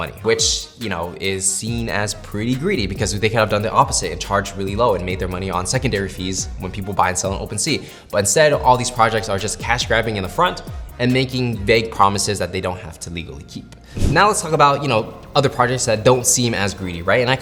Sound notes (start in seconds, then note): 13.9 frame wooshing